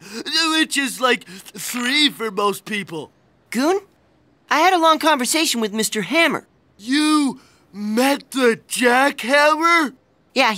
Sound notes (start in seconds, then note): none